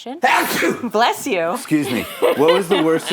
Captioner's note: sneezes; laughs